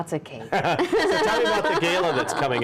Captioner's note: all laughing